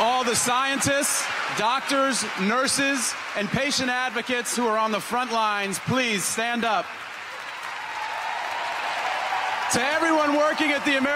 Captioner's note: applause